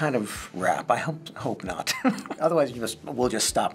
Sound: chuckling

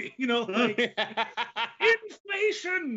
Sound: laughs

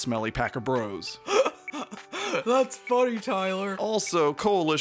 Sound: laughing

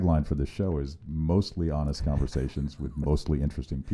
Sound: laughing

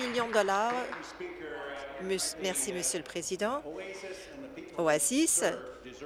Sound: applause

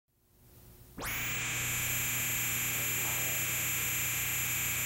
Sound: soft buzzing

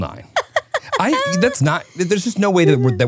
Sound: laughing

